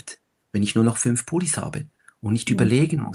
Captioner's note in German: none